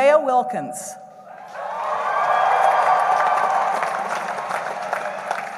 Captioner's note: cheering